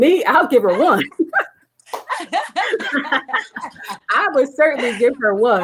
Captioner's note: ladies laughing